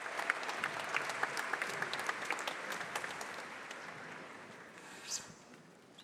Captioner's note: applause